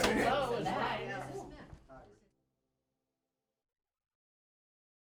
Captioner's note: people chattering